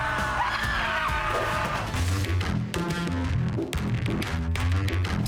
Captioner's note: screaming